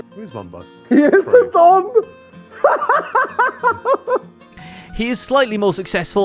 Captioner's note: laughs